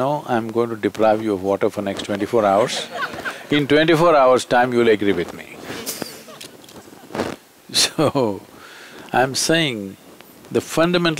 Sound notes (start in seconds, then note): 2.5 laughter; 7.7 laughs